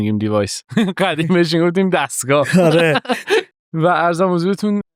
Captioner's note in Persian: خنده